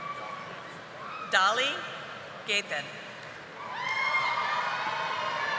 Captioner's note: audience applauding